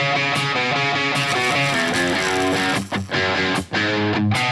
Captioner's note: upbeat rock music; electric arc crackling; upbeat rock music